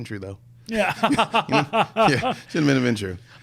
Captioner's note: laughs